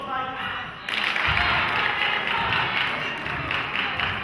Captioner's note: clapping